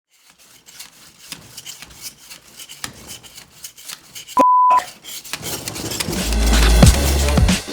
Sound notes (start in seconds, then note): 0.0 sawing; 4.4 beeping; 6.1 hip hop music